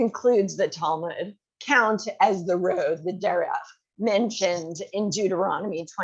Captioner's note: hebrew